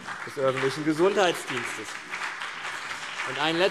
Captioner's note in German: Beifall CDU und BÜNDNIS 90/DIE GRÜNEN